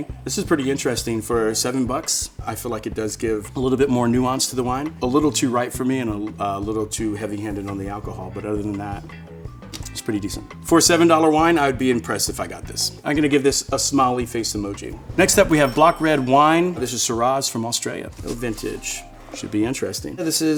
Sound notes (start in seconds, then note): 15.0 bell dinging